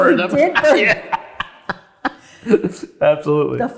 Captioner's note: both laughing